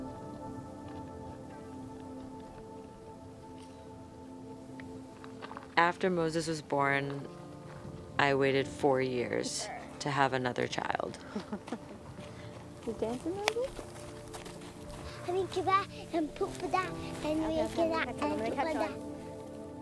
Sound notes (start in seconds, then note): 0.2 ground crunching; 0.2 soft instrumental music; 11.2 laughing; 14.2 feet shuffling; 15.4 speaking gibberish